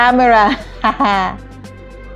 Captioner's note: laughs